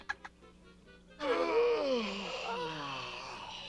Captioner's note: yawn